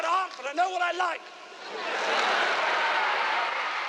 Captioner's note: crowd cheers